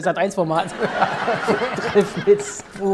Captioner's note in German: Lachen